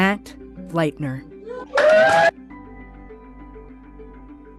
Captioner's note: cheering